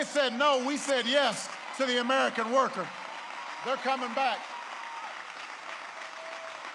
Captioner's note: applause